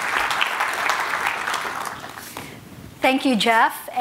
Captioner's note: applause